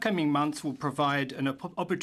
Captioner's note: speaking French